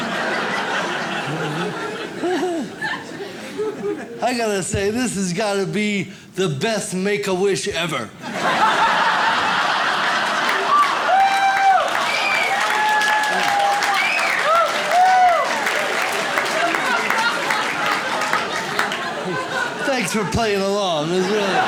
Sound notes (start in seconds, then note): 0.0 audience laughs; 8.2 audience laughs; 11.0 audience cheers